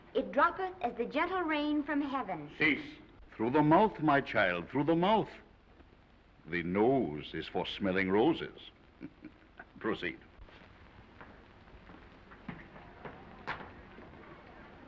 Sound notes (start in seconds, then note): 9.0 chuckles; 12.1 footsteps approaching